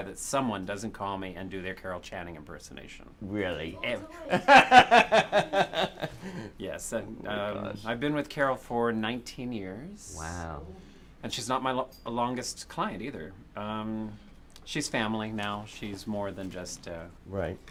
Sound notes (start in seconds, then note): 4.3 laughter